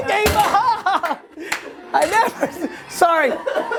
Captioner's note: laughter